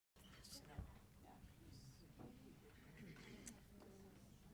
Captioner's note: board members chattering